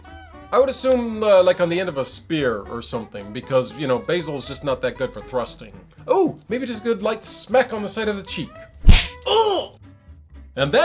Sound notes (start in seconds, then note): 8.8 smack Sound